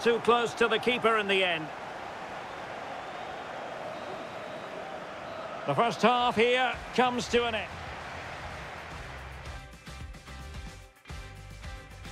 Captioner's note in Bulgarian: Аплодисменти